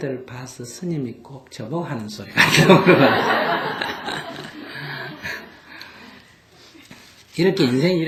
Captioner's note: all Laughter